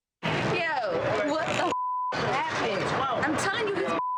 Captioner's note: beeps; beeps